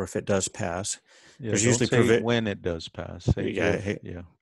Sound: on phone

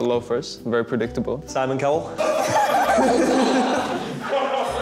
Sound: laughter

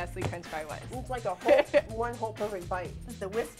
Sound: laughs

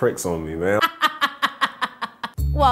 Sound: laughing

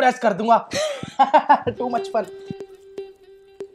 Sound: laughing

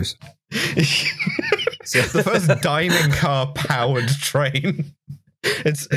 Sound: laughter

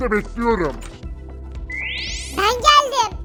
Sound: teleport sound

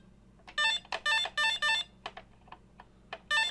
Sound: sounds of electronic game noises is heard

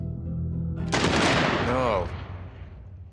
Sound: gunshot

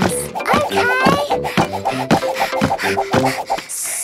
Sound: panting

